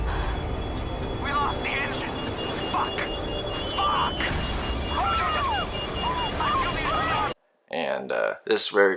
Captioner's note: game audio; screaming